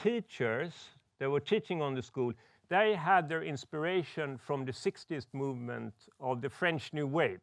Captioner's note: none